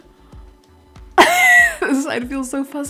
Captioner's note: laugh